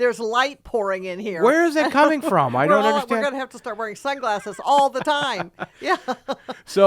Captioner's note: laughing